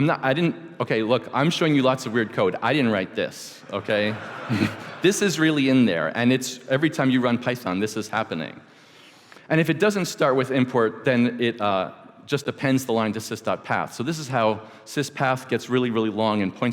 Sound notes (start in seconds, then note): 3.6 laughter